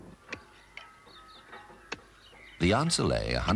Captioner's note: birds chirping